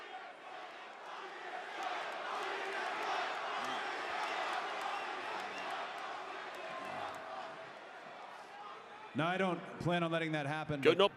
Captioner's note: applause